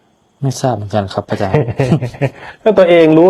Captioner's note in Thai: เสียงหัวเราะ